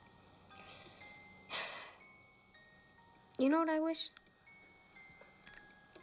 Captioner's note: sighs